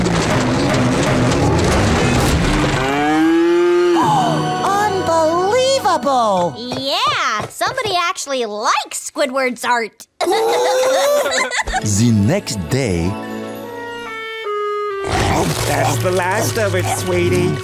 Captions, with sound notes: [mooing] [gasping] Unbelievable! Yeah, somebody actually likes Squidward's art. [laughing] Ooh! That's the last of it, sweetie.